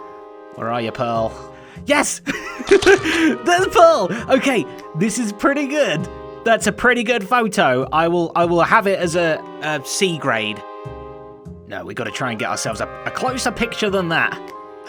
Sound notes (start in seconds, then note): 2.2 chuckles; 14.7 whispers